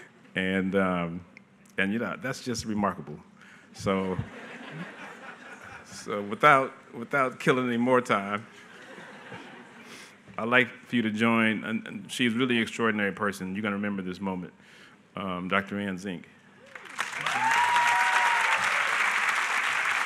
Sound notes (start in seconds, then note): 4.1 laughter; 16.6 applause